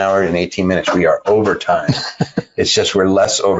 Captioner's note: laughing